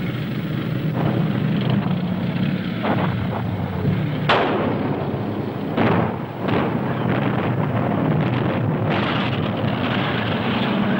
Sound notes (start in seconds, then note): 0.1 engines humming; 4.2 explosions thundering